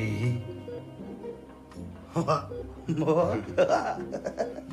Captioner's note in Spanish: Risas